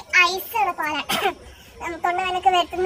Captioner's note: coughing